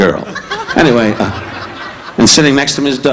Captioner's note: audience laughing